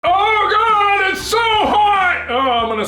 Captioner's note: yelling